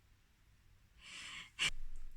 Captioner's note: laughs